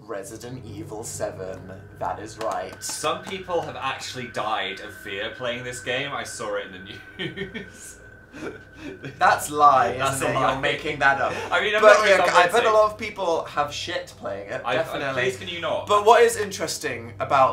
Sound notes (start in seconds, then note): 6.9 laughing